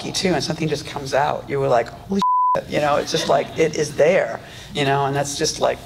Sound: audience laughs

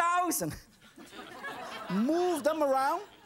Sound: audience laughs

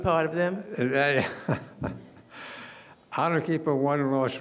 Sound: laughing

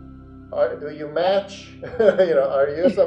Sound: laughs

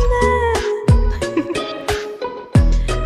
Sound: laugh

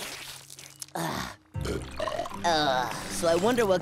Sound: burping, groaning

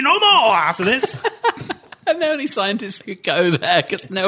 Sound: laughter

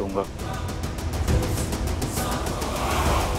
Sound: ominous vocalisation

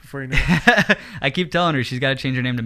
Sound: laughing

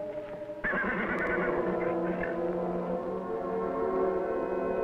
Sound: Champ neighing

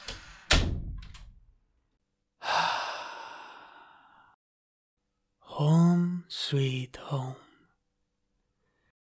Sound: sound of door closing; sigh of satisfaction

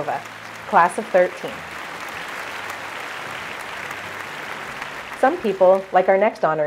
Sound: applause

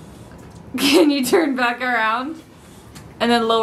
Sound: laughs

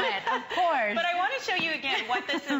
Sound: laughter

